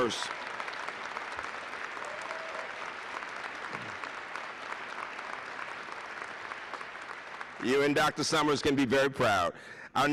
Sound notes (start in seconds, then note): 0.0 applause